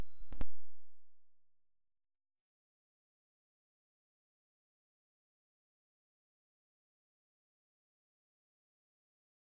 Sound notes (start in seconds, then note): 2.4 silence